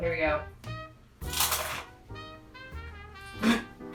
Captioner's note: toast crunching